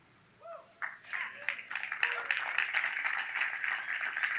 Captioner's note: audience claps